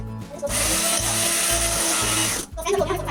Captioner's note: blender noise